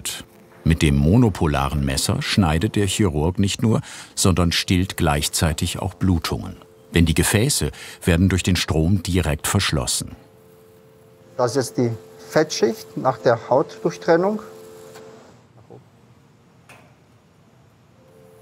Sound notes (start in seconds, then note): 14.5 low machine whirring